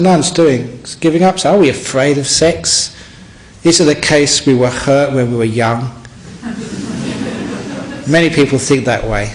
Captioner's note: laughter